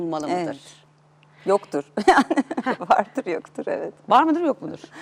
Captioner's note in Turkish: kahkaha